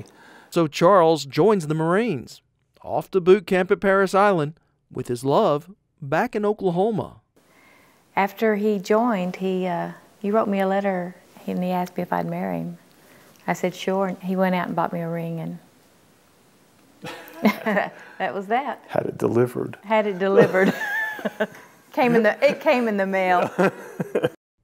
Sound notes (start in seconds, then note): 17.0 laughs; 20.0 laughing